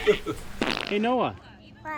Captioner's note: everyone laughs; squelch